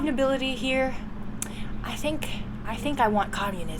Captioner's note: tsk